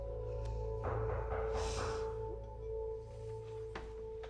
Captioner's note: Rebecca and Jim breathing uneasily; Noah knocking